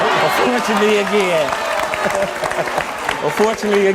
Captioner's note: audience applauds